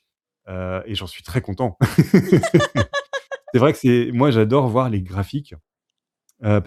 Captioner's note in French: rires